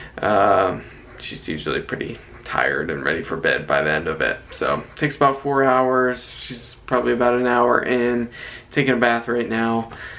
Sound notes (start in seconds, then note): none